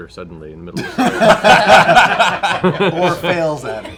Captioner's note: laughter